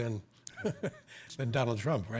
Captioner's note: chuckles